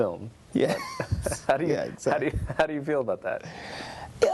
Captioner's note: laughter